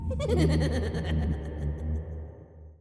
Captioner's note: disembodied cackling